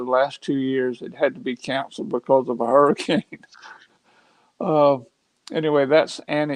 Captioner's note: chuckles